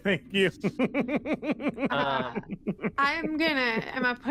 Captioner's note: laughter